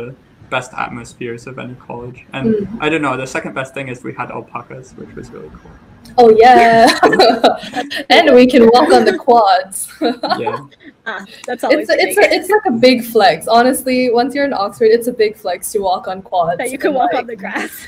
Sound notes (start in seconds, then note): 9.9 all laugh